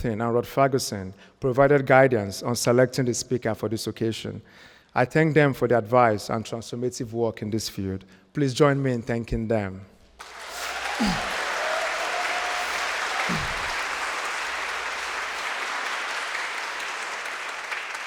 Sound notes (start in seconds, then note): 10.2 crowd cheering; 10.2 crowd clapping